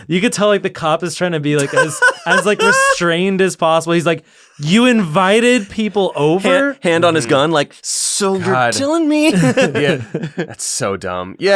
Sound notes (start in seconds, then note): 1.6 laughter